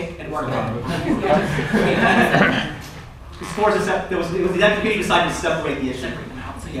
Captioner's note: laughter